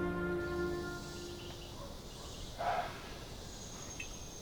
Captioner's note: birds chirp